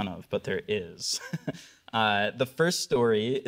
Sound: chuckling

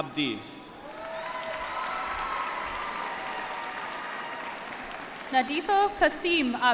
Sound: cheering

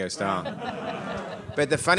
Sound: audience laughing

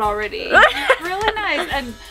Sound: laughter

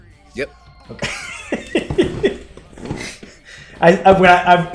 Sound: laugh

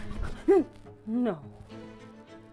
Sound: gasp

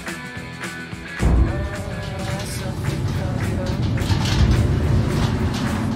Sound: rumbling

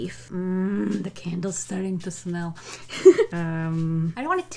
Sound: giggles

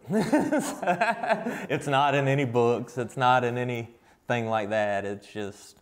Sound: laughs

